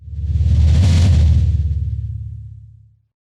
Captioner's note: whoosh